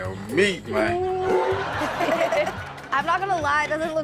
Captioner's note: audience laughs